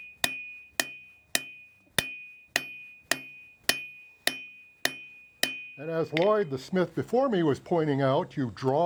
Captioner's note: hammering